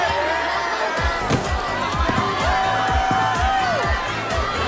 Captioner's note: grunting; cheering